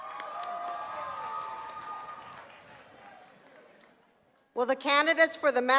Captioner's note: applause